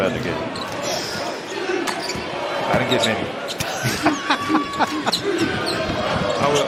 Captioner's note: laughter